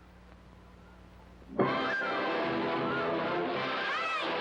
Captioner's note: water rushing; triumphant music